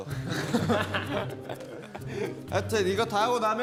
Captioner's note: kekekekeke